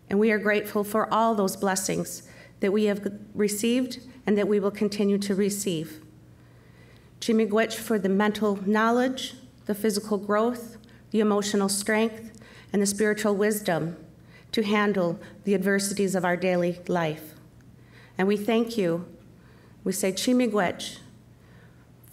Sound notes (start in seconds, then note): 7.2 speaking Chippewa; 20.4 speaking Chippewa